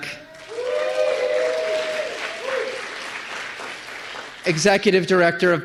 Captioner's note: applause